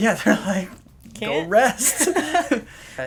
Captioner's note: laughter